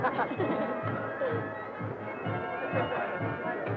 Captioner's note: both laughing